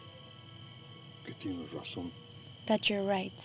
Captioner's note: speaking spanish